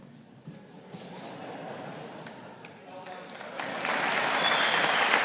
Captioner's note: audience laughing; audience applauding